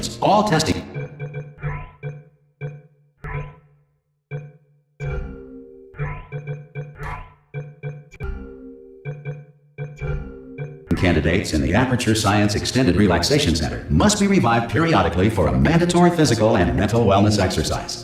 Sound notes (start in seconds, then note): none